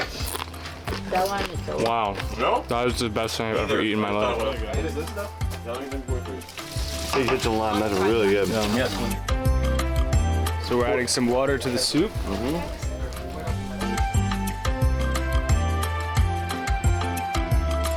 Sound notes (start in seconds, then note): 6.4 crunches